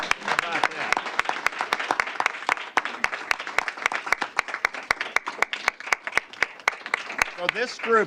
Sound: applause

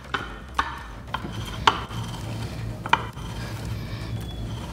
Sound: grinding noise

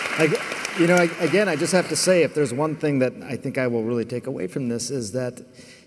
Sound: applause

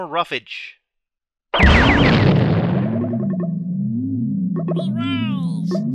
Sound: explosion, even louder weird humming, ongoing pops

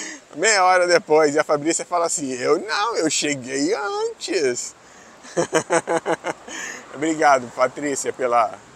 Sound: laughs

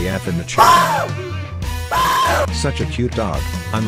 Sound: bark

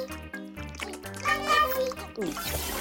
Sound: loud swallowing

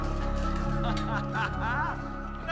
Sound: laughter

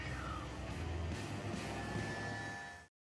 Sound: mototor runnining

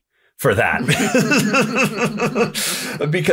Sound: laughter

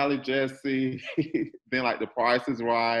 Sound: laughs

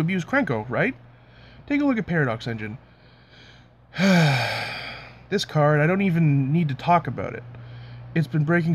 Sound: sigh

